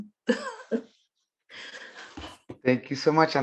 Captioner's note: giggling